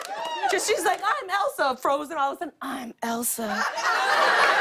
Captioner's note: sultry voice; laughter